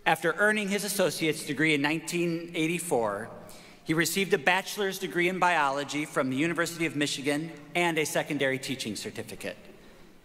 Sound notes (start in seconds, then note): none